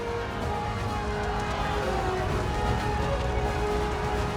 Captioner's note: crowd cheers